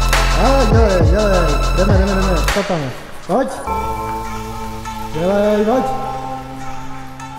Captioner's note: cameraman cheering in the background